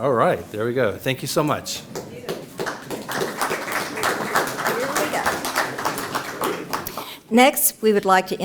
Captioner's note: applause